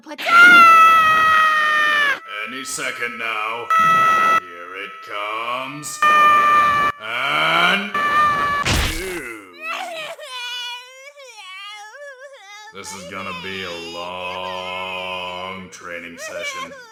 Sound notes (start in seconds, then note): 2.2 Gohan screams throughout his flight; 9.6 Gohan crying